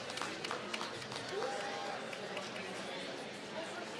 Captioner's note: applause